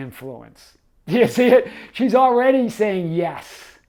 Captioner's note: chuckling